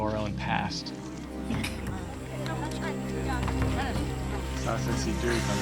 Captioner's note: people talking in background; speaking local language